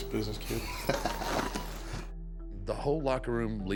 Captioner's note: Kurt laughing